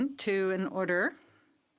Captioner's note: speaking French